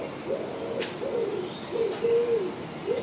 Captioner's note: screech owl